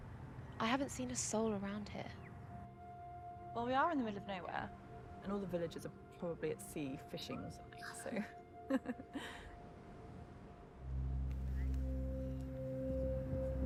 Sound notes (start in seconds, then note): 8.6 laughing; 10.4 soft melodic music